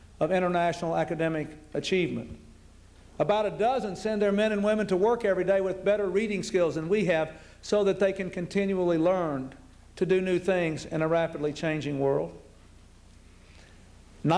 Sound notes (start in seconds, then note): none